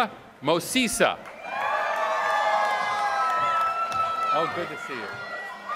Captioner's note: applause